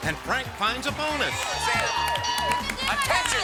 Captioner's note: audience cheers